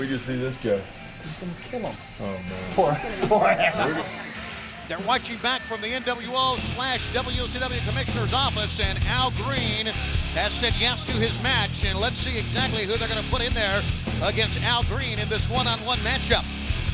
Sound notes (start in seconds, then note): 3.9 laughs